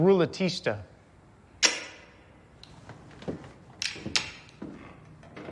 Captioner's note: gun clicking